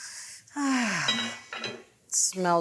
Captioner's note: sighs